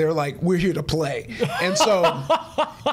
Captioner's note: laughing